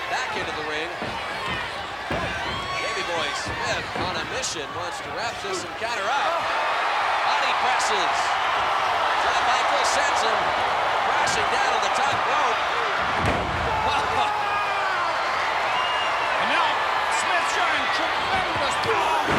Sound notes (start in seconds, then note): 0.0 crowd cheering; 0.0 footsteps plodding; 12.9 body thudding; 13.8 crowd cheering